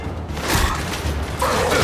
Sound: grunt

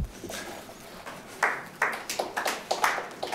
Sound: applause

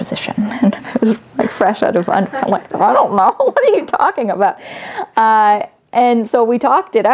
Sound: laughs

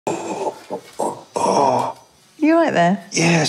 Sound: groaning

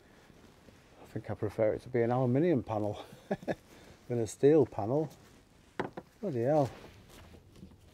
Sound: laugh

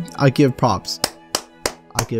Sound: claps

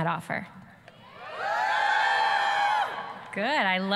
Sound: students screaming, cheering

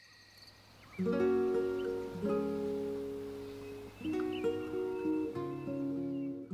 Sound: birds chirping; soft music

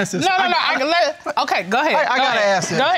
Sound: stammering

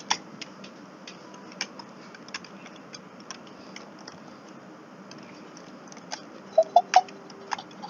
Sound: giggles

